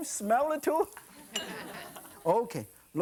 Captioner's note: audience laughing